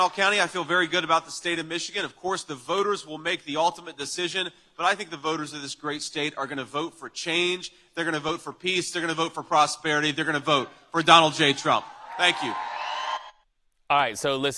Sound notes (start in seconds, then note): 0.0 applause